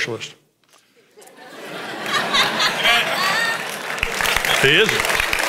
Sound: congregation laughs

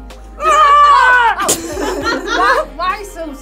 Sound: yells; laughs

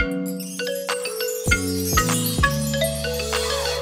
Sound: upbeat music; chimes twinkling

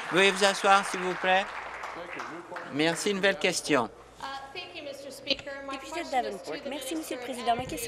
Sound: applause

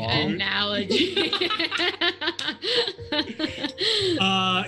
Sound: group laughs

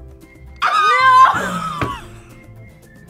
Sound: both laugh

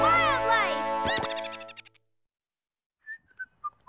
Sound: whistling

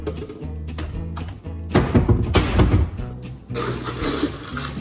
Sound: doors closing; ice cubes colliding

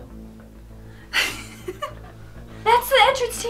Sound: laughs

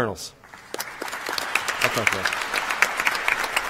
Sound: applause

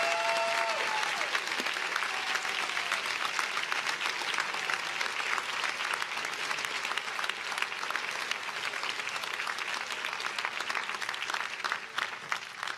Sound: applause

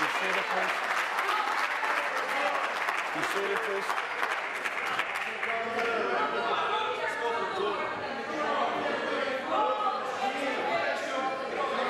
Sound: some Applause

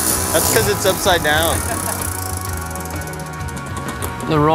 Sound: laughter

